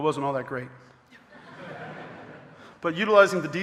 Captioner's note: audience laughing